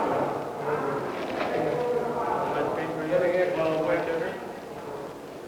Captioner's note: indiscriminate chatter; paper donut wrapper unfolding; indiscriminate chatter